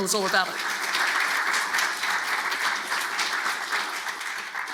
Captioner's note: audience claps